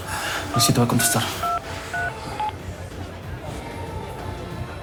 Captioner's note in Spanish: Sonido al marcar